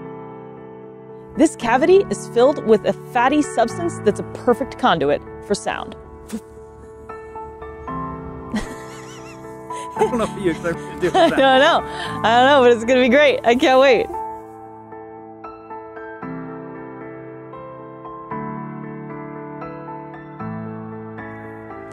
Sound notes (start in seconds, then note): 6.1 makes a sound effect noise; 6.8 background music; 9.8 laughs; 14.4 background music